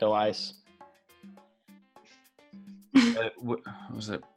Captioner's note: laughing